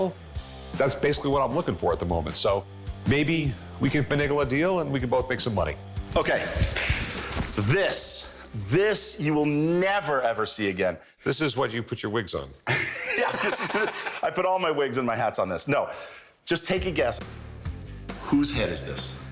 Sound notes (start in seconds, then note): 12.6 both laugh